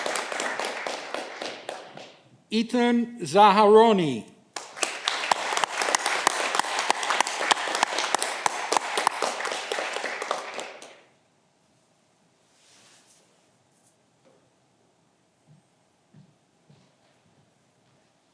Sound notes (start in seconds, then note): 4.5 audience clapping